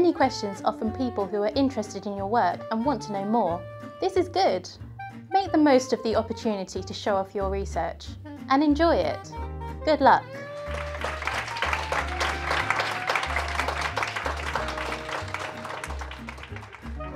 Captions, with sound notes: Any questions are from people who are interested in your work and want to know more. This is good! Make the most of the opportunity to show off your research, and enjoy it! Good luck. [rapturous applause]